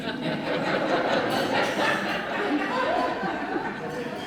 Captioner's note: laughter